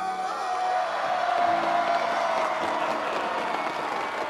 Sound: audience cheers

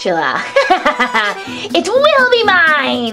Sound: evil laughter

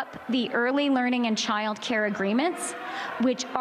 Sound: chanting

